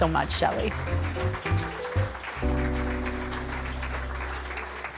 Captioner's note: audience clapping